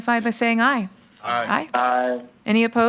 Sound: in Unison

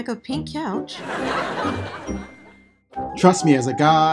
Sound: laughter

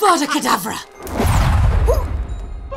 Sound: scwhoomp

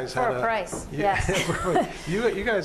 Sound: laughs

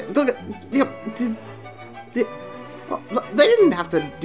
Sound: stammering

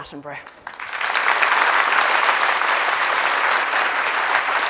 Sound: audience applauds

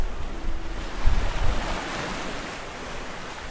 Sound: tide washes

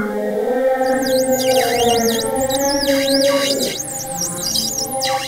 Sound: squeaking of deer rubbing against vehicle

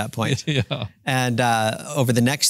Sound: laughs

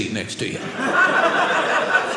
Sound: audience laughing

